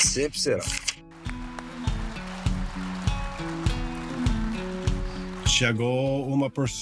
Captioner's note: applause